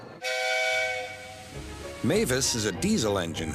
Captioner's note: engine whistles